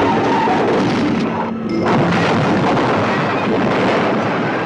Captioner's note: car crash rumbling